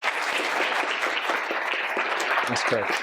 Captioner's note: audience applauds